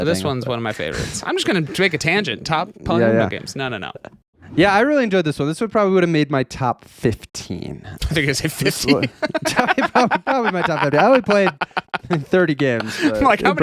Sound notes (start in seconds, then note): 8.1 laughing